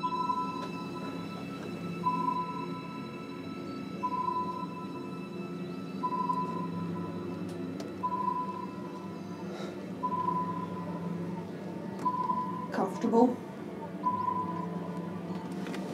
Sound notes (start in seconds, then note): 0.0 computer beeps; 9.7 Gunderson exhales